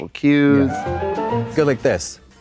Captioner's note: bright chime